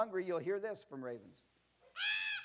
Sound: bird Sound

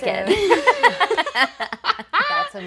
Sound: laughing

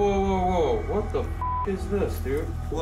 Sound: beeps

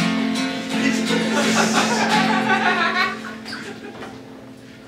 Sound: audience Laughing

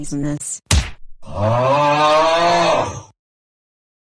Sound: frustrated moan

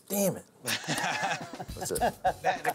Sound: laughter

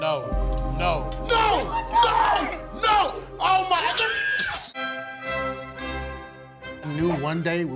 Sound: man screaming

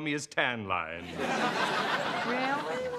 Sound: laughter

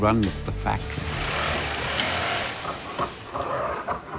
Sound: machines buzzing

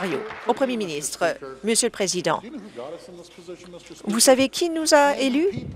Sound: applause

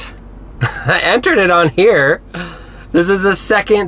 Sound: laughs

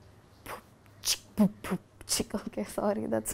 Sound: beatboxing

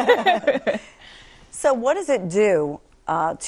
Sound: laughing

